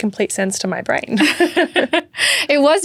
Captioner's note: laugh